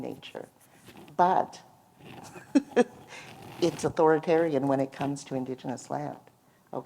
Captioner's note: laughter